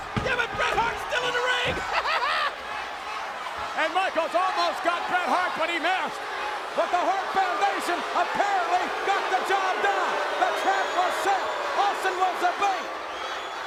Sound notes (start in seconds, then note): 1.6 laughs; 10.0 audience jeers